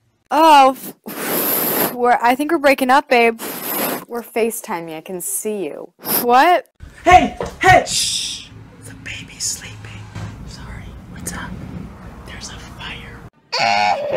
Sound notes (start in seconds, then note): 0.6 blows into microphone; 8.5 whispering; 13.6 pained laughter